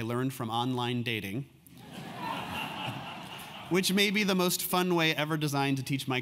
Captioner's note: laugh